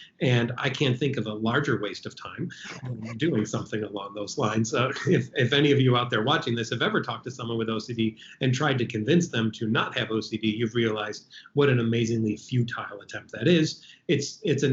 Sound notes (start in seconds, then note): 2.5 laughing